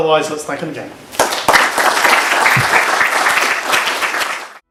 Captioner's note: applause